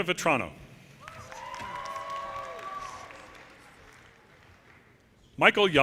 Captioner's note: audience cheers and applause